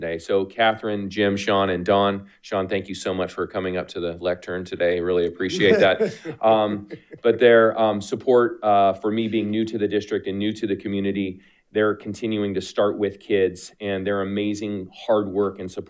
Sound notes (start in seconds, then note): 5.5 laughs